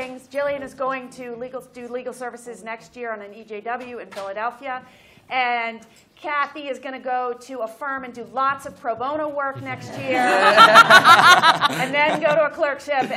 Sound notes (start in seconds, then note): 10.0 laughter